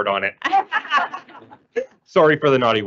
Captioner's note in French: rires